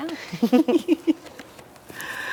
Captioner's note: chuckles